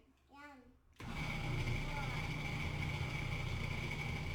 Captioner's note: blender grinds